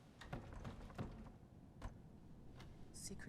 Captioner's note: door rattles